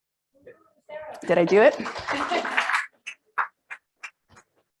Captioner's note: audience laughs